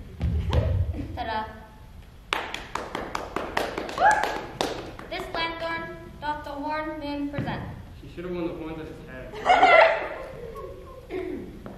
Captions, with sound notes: (claps) This lanthorn doth the horned moon present;-- He should have worn the horns on his head. (laughter)